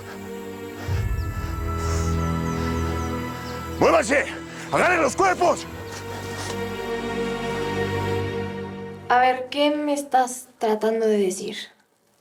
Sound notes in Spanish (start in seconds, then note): 0.3 Sollozo; 5.8 Sollozos